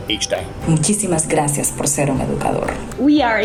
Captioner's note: educator speaks in foreign language